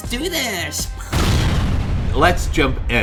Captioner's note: explosion bangs